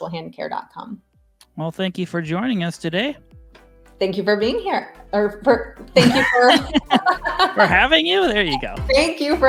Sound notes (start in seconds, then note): 5.9 laughing